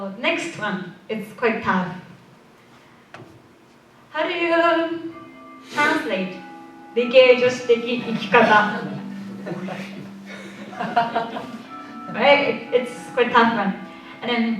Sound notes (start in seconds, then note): 7.9 laughter